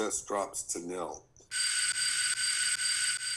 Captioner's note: doorbell ringing repeatedly